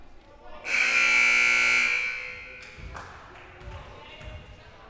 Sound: loud buzzer blaring

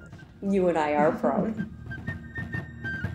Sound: chuckling; patriotic music

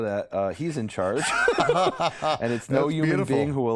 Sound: laughter

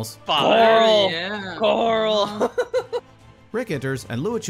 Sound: laughing

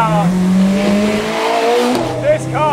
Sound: car engine roars

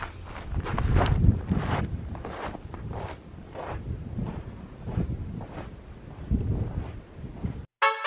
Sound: footsteps

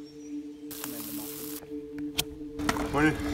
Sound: food sizzling

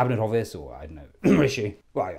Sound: cough

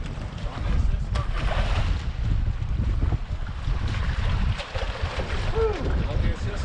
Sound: fish splashing

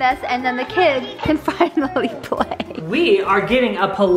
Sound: laughs

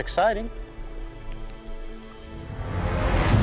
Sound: clicking; dramatic music

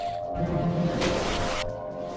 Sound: splashing

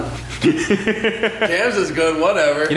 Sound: laughter

